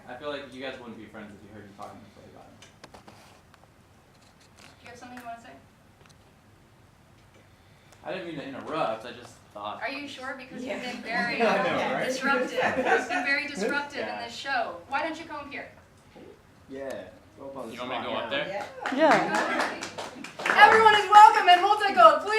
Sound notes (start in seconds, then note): 10.8 audience laughter; 18.5 audience claps